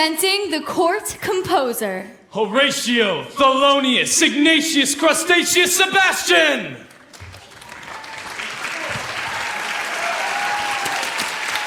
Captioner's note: applause